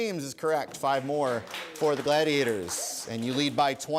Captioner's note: applause